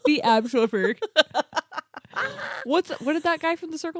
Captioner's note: giggles; laughing